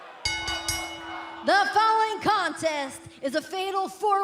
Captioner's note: bell ringing